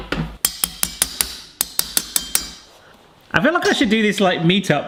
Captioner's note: metal tapping